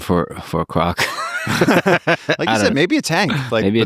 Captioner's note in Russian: Лекс и Пол смеются